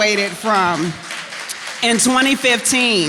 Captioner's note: applause